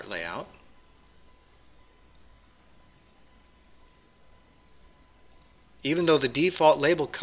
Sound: pause

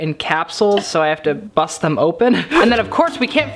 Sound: laughs

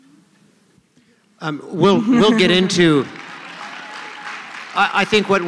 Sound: applause

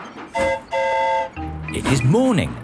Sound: mimics train whistle; train whistle toots

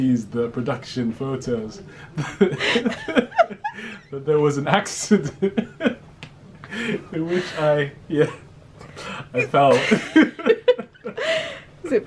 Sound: laughs; laughter

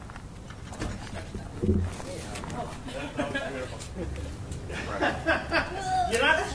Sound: laughs

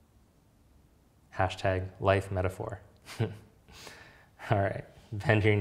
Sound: chuckling

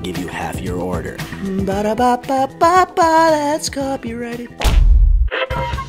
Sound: hums McDonald's jingle

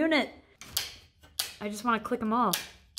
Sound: switches clicking

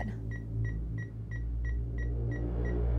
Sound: beeping; ominous music

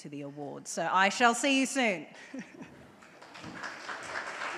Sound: chuckles; audience applauds

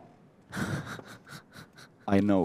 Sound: nervous laughter

